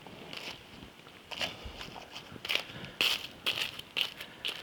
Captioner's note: pastry crackles